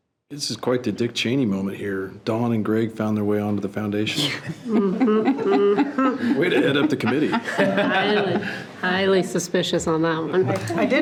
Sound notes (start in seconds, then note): 4.1 participants laughing